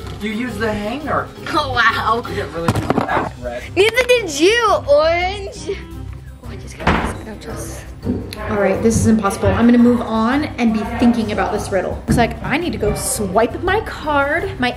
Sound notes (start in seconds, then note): 6.8 whispering